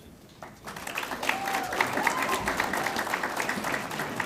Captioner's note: audience applauds